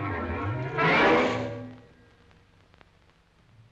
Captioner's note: lion growls